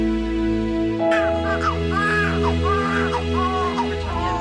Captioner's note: baby crying